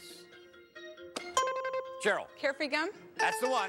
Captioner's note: buzzer rings